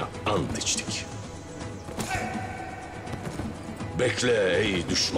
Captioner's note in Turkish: Nal sesleri